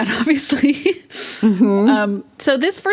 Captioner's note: laughs